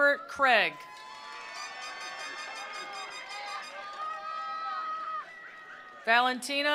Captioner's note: attendees cheering; attendees applauding